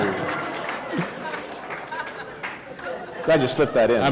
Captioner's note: laughter